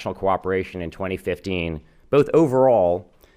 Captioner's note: none